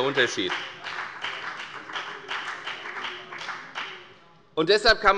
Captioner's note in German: Beifall bei der FDP